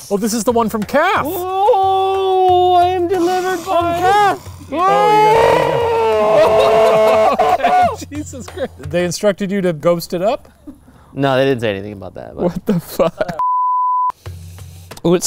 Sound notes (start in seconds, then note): 3.0 spooky scream; 13.4 beep